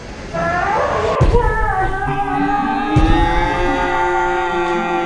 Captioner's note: slow-mo screaming